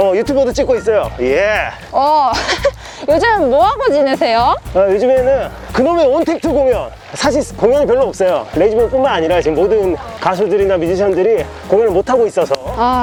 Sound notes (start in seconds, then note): 2.3 laughter